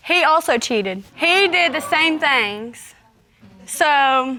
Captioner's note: audience exclaiming